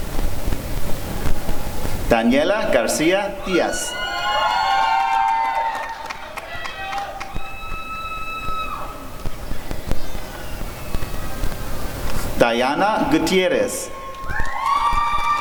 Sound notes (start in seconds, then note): 5.4 applause and cheering